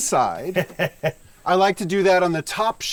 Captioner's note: man laughs